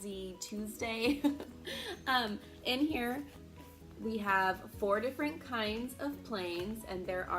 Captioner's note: giggles